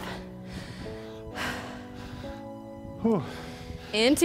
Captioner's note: breaths heavily; soft upbeat music